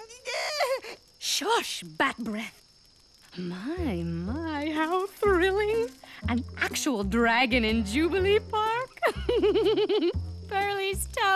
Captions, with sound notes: (Whimpering) Shush, bat-brea! My, my, my-- how thrilling! An actual dragon in Jubilee Park!